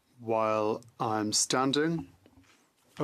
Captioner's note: speaking French